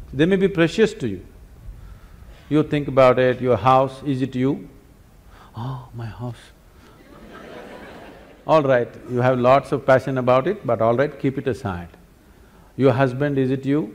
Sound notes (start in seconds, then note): 6.9 laughter